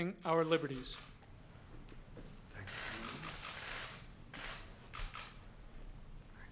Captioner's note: applause